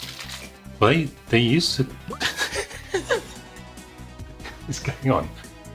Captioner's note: both chuckling